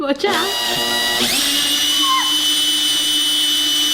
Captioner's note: drilling noise